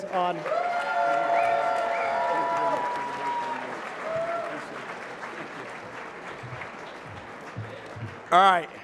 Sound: applause

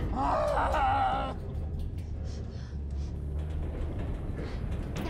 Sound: groaning

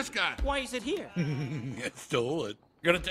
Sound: trying to hold in his laughter

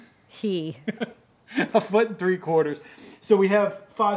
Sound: laugh

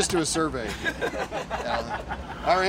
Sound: laughter

